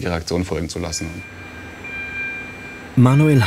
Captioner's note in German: Helle Signaltöne